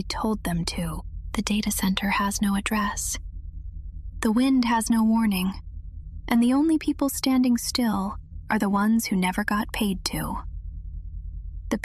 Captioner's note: whispers